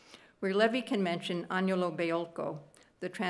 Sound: speaking italian

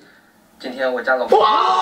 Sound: says something in a deep voice

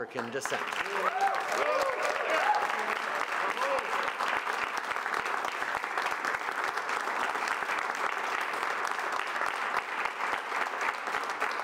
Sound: applause

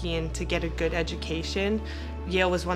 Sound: none

